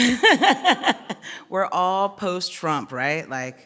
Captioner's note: laughing